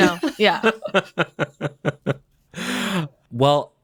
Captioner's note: bowen laughs